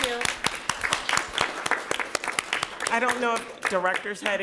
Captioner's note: people clapping